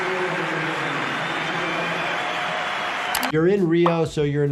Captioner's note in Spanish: Público aclamando y aplaudiendo